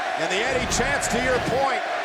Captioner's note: graphics whooshing